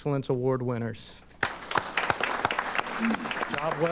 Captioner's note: applause